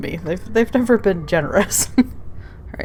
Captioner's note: laughs